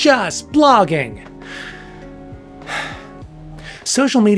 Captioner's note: overly dramatic sigh